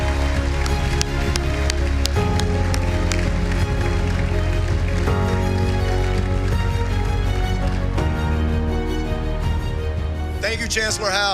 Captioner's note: applause